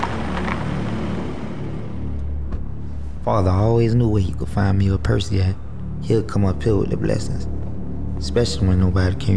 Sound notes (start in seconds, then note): 1.9 car door shutting